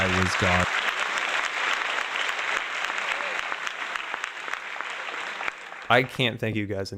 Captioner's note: applause